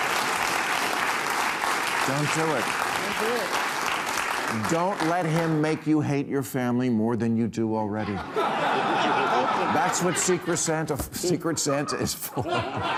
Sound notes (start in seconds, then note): 7.9 audience laughing; 11.0 chuckles